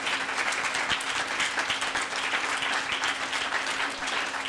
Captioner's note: audience applauding